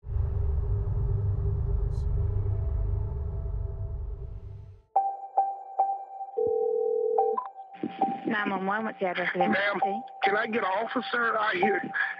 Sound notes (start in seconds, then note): 4.6 suspenseful music; 6.0 phone ringing